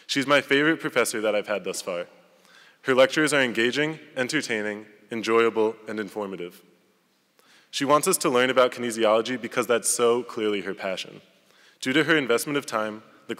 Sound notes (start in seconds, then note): none